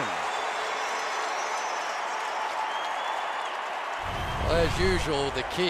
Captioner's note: cheering